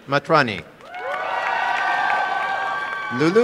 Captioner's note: cheering and applause